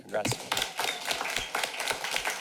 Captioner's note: applause